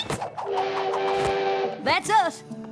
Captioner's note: train whistle